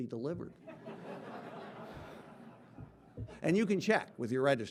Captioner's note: audience laughing